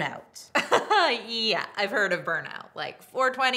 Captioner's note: laughs